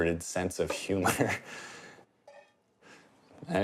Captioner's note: laughs